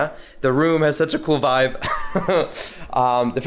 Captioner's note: chuckles